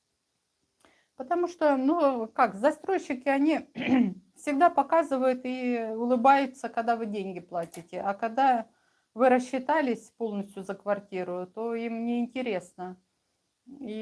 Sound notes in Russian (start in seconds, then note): 3.8 откашливается